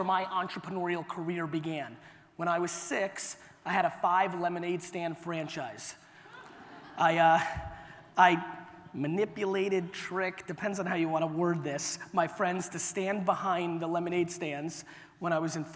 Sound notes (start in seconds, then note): 6.2 audience laughter